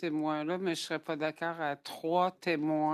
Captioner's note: speaking French